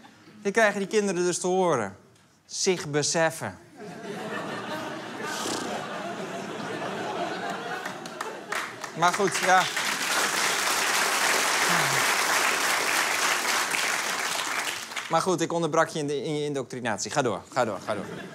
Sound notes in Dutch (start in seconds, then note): 3.7 Gelach; 9.8 Applaus